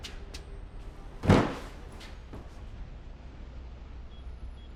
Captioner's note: bag thumping